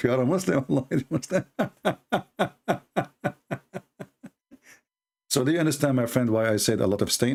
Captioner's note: Ketawa